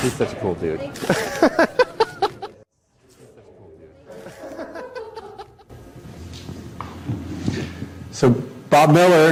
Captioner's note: laugh